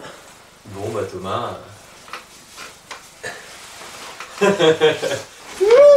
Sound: laughes

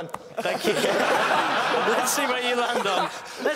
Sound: laughing

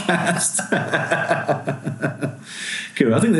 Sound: laughing

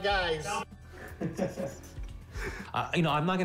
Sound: laughs

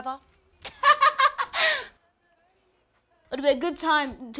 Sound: laughs

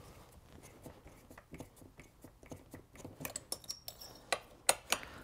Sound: screws squeaking continues

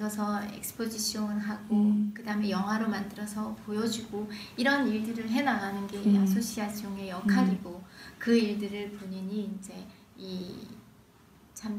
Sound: foreign language

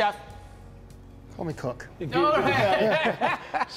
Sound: laugh

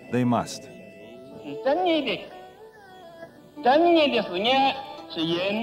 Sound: speaking foreign language

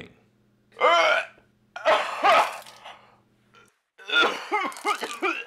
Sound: vomiting

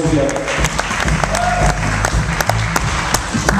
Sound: applause and cheering

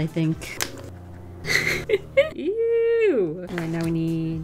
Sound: laughs

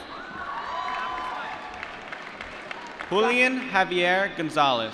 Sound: applause

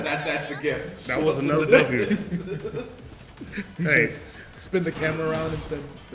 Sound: laugh

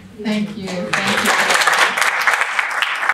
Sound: applause

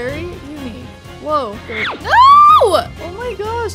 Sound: electronic whooshing

